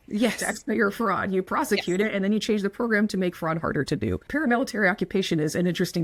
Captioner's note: laughs